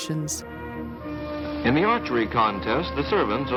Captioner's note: voiceover